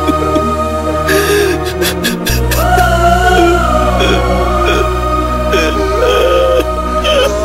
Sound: wailing

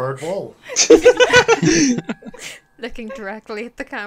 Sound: laughter

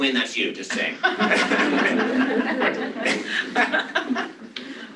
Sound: laughter

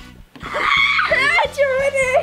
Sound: laughs

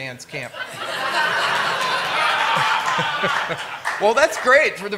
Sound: laughter

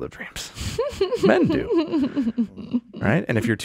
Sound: laughing

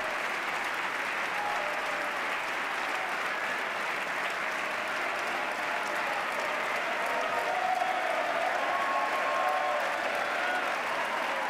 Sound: cheers, applause

